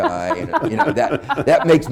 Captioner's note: laughter